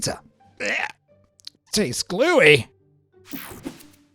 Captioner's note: gags